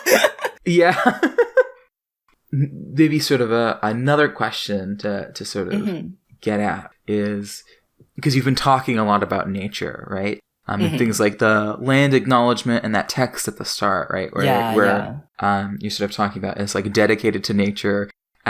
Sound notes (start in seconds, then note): 0.0 both laugh; 0.0 laughs